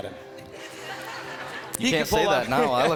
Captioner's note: crowd laughing